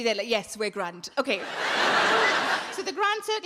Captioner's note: audience laughing